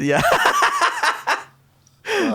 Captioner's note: laughing